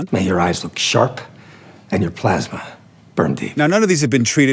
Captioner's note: movie dialogue plays